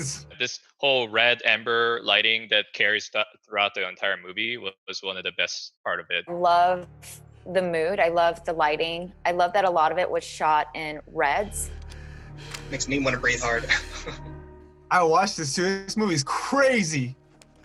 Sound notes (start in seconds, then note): 13.2 chuckles